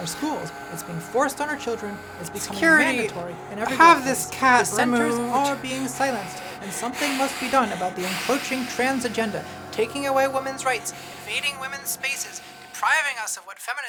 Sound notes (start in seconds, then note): 6.3 continued hissing